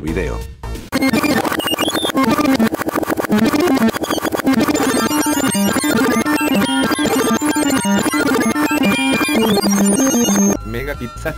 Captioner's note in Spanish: Sonido de rebobinado